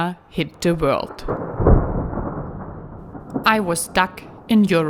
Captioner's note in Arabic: قرقرة الرعد